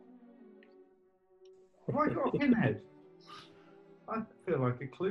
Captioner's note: chuckling